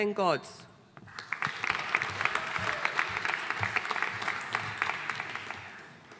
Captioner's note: audience applauding